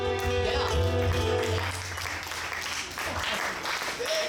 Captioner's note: audience clapping